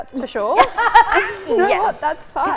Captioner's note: laughs